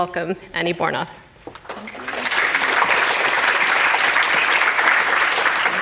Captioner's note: applause